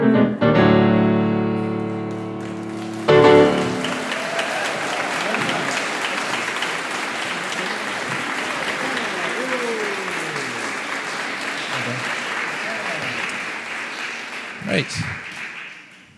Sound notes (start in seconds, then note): 4.1 applause